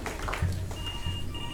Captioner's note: ring